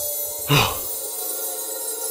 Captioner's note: Teddy gasps